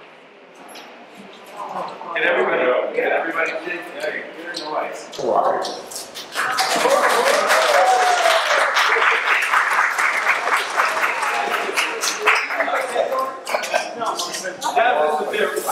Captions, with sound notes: - Can everybody, can everybody see? Here in the lights. (audience applauding)